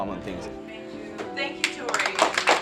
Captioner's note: class clapping